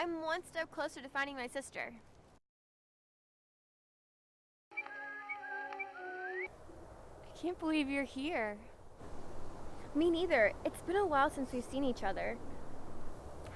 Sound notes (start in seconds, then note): 4.7 light happy music; 4.7 whistling